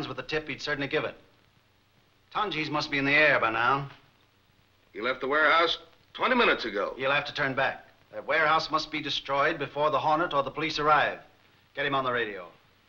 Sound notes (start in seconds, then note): none